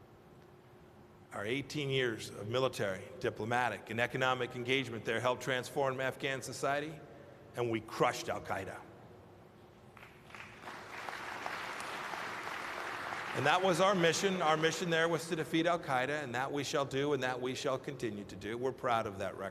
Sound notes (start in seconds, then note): 9.9 applause